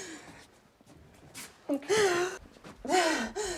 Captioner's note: sobbing